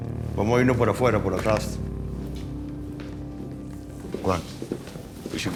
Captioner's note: Galino speaking Spanish